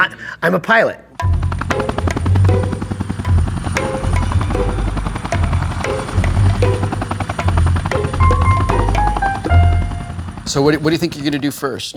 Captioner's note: helicopter blades